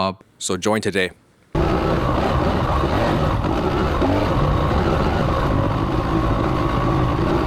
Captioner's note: engine noise